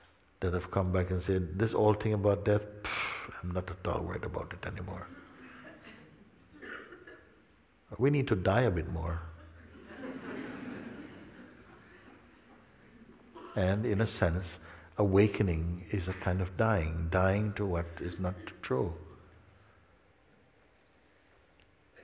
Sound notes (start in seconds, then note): 10.8 laughter